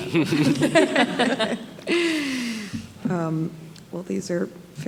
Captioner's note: group laughing